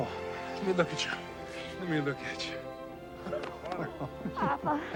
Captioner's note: chuckles